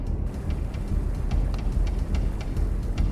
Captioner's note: water rushing